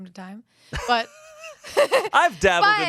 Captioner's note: laughs